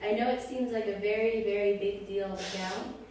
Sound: crying

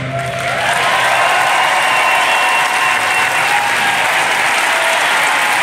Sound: applause

